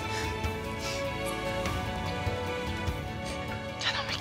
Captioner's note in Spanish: Sollozos